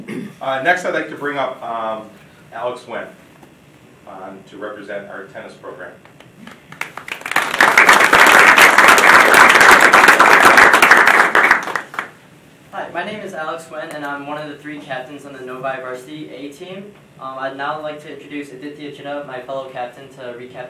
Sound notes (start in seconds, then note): 6.5 audience applauding